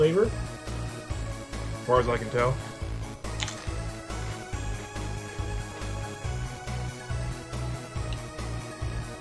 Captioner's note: more crunching